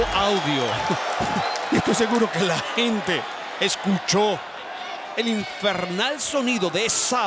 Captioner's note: laugh